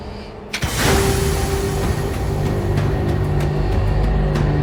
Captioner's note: door whirring